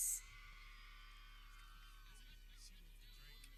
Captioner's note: people cheering